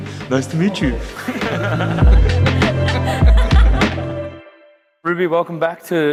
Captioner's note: everyone laughing